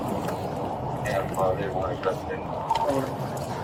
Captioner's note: radio chatter